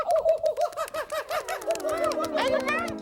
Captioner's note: hooting